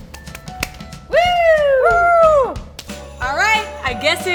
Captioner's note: both cheer